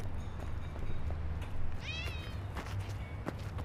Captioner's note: cat meows